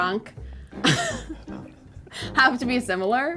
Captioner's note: laughing